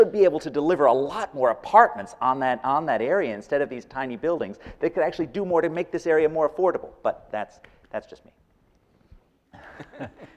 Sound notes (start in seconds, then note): 7.3 laughing